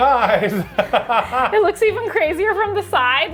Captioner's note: laughs